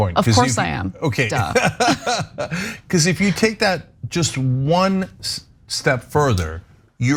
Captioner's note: laugh